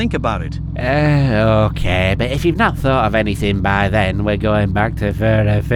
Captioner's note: sigh